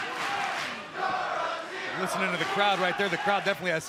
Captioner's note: fans chanting